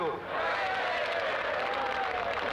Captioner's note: crowd cheering; applause